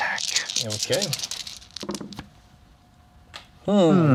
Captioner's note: dice rattling